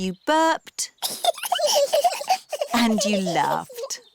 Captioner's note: both burping; both giggling